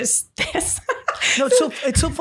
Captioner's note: laughing